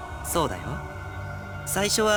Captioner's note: none